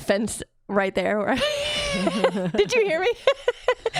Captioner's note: laughs